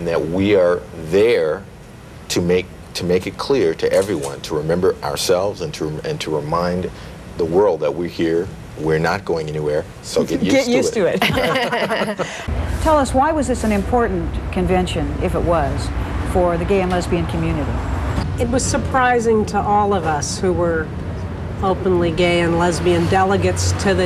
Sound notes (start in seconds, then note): 10.6 laughing